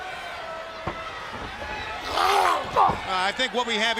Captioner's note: crowd chatter